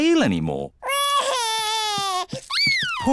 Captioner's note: crying